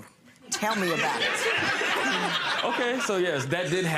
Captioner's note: laughing